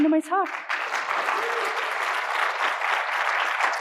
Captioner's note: applause